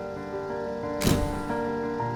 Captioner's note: light piano music; camera shutter clicking; light piano music